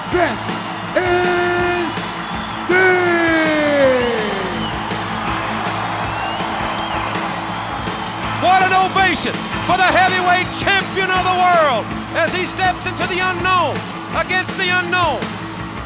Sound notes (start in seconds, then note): 4.8 crowd cheering; 4.8 crowd whistling